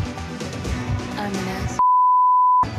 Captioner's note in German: Piepton